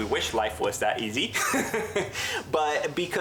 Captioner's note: laughs